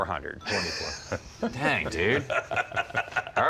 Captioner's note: snickers; laughter